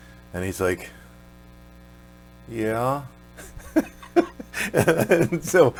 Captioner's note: laughs